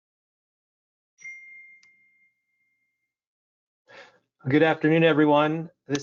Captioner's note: laptop beeping